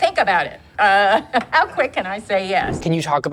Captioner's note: chuckles